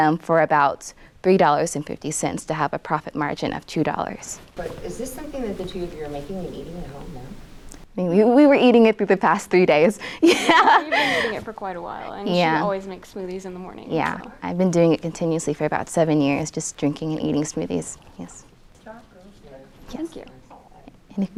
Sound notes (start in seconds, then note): 10.2 laughs